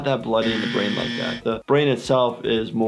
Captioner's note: buzzer buzzes